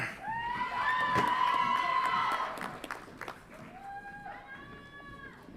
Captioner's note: audience applauds and cheers